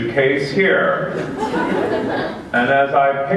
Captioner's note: laughter